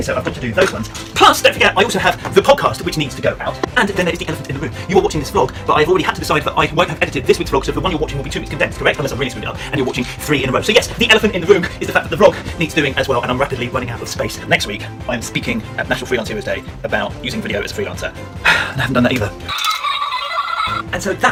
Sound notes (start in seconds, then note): 18.6 sigh; 19.5 toy playing music